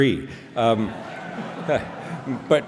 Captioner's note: laughter